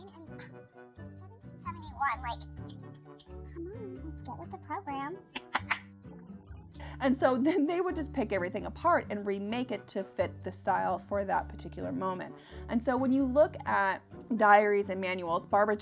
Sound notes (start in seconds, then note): 0.6 sighs; 2.5 snaps; 5.3 claps